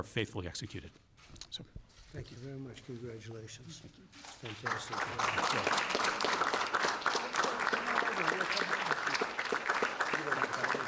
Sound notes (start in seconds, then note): 5.8 applause